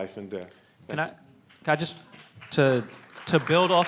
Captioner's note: applause